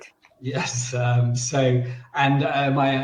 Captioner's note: laughs